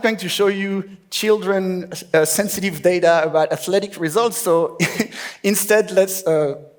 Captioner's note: laughs